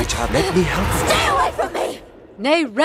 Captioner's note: distorted voice